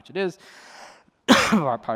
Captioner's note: coughs